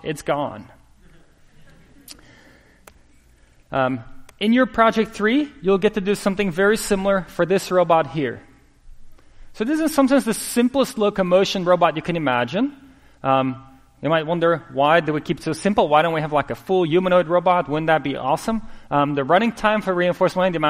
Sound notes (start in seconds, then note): 1.0 laughter